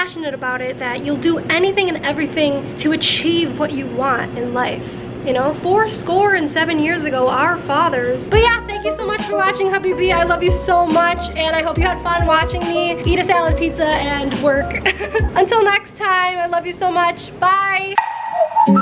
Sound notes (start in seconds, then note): 14.7 laughs; 17.9 upbeat music playing